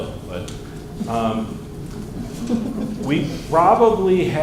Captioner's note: laughter